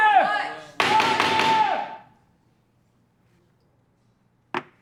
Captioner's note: gavel thumping